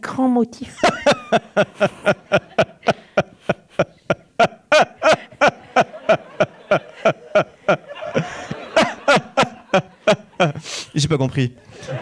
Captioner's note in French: Rire intense continu